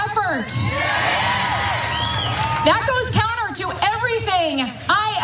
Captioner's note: applause